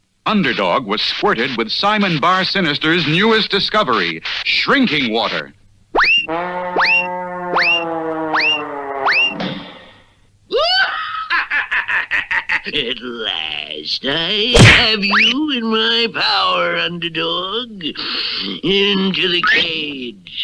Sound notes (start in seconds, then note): 10.5 Simon Bar Sinister Laughs